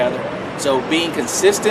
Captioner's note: car noise